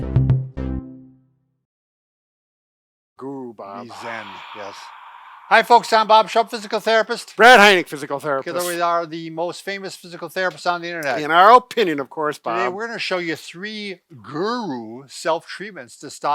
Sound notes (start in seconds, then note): 0.3 cheerful tone; 3.8 exhales